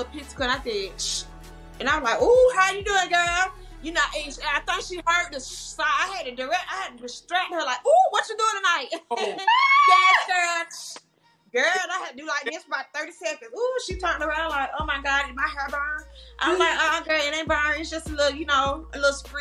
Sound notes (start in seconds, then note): 1.2 imitates sizzling; 4.9 imitates sizzling; 8.8 laughs